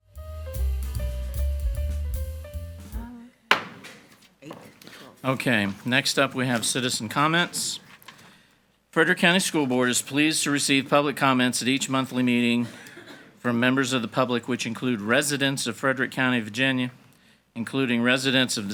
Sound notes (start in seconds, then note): 0.0 cheerful jazz music; 3.5 hammer slamming